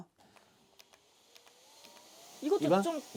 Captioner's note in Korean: 위잉